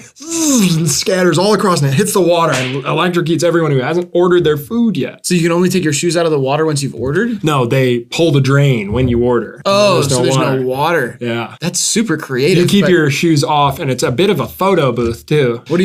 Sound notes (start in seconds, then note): 0.3 electricity noise; 2.5 clap sound effect